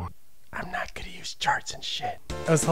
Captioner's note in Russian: шёпотом